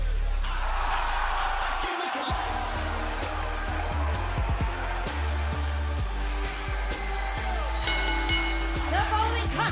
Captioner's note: cheers and applause